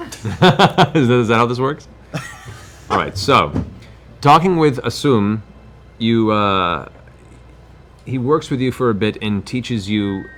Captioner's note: laughs